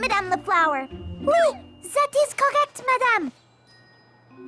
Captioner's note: high-Pitched voice